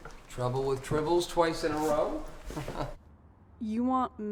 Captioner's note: laughs